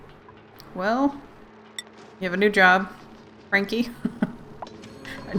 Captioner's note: laughs